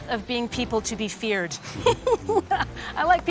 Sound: laughs

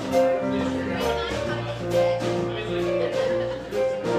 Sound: people chattering

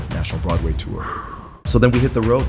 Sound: exhales

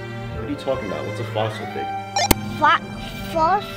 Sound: beeps

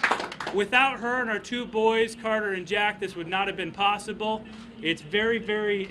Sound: applause

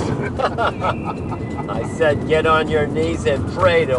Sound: laughter

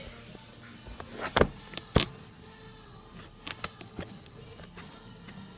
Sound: box ripping; box rustling

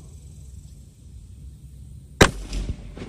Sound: report of the rifle

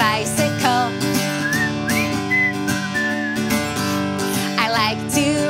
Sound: whistling

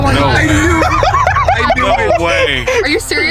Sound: laughs

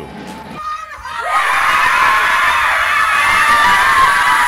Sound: cheering

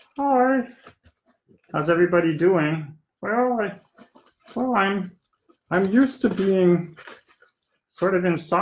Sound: puppet voice 3

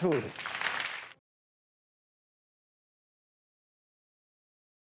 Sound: audience applause

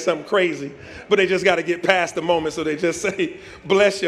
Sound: laughter

